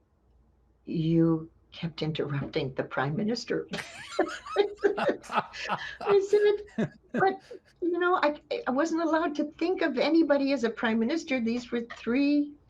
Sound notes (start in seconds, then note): 0.9 laughter